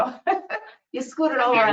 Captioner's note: laughs